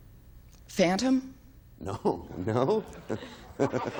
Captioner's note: Bill chuckles